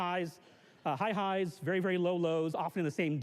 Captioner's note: none